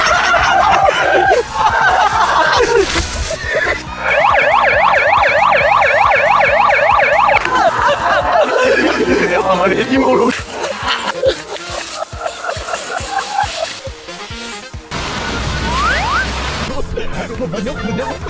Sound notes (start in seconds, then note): 6.8 laugh